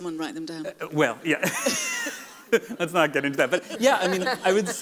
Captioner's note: laughs